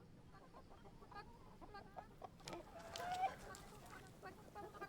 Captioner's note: chickens clucking